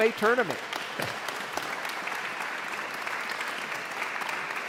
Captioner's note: audience applauds